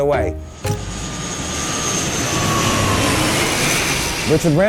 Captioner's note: airplane engine roaring